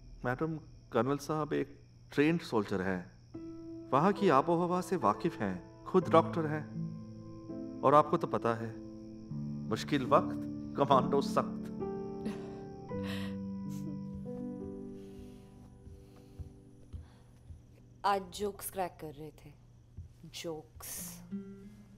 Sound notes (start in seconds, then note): 12.2 Chuckles